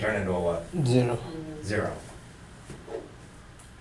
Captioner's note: voiceover